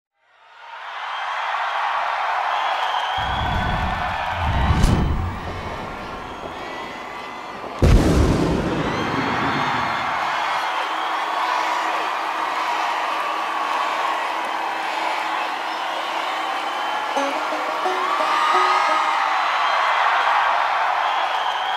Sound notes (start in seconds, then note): 0.2 crowd cheering; 5.1 footsteps echoing; 7.4 cheering; 10.3 crowd chanting "Carrie"; 21.5 cheering intensifies